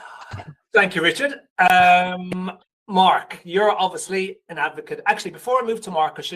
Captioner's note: laughs